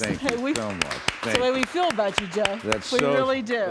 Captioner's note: clapping